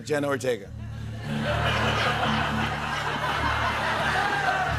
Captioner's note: laughter